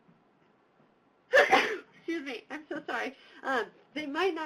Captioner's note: sneezes